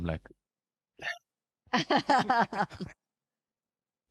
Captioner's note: laughing